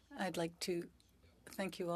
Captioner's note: speaking French